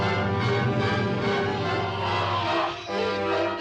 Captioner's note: groaning